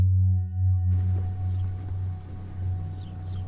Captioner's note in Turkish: Ortam Sesi; Hafif Müzik